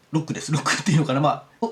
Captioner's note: laughs